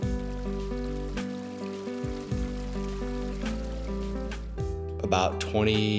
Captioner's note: soft music; running water